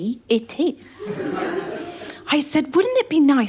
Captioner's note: laughter